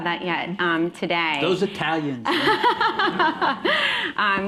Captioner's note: laughter